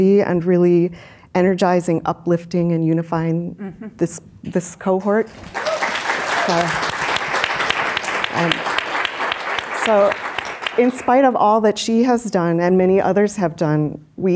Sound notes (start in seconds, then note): 5.0 audience clapping; 5.3 audience cheering